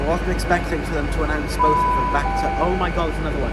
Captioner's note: announcement Sound